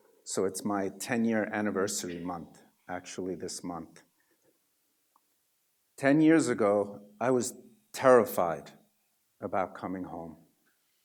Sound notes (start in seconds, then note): none